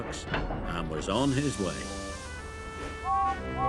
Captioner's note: steam hisses; train whistle blows